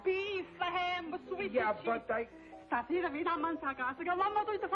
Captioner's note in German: spricht spanisch